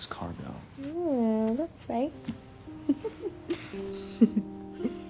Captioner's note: giggling